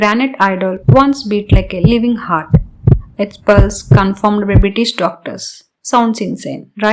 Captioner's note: beat like a living heart